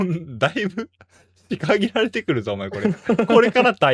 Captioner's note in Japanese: 笑い